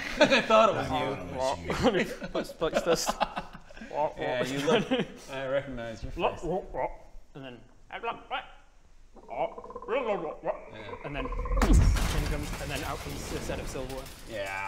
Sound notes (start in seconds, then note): 6.7 Bullywug conversation; 11.4 boosh